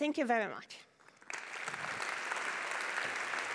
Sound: applause

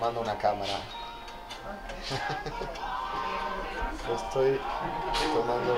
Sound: laugh

